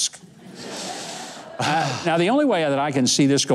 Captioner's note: audience laughs; inhales deeply